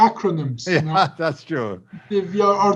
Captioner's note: giggles